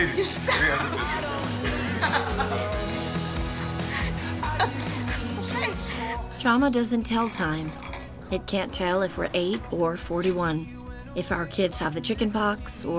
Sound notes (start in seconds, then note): 0.0 both laugh; 3.8 laughs